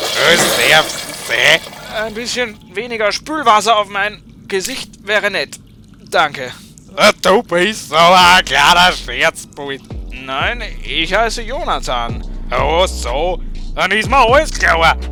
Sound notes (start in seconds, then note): none